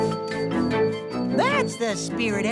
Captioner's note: giggle, cheer